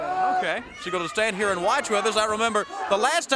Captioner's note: crowd cheering